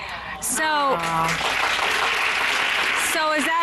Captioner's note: applause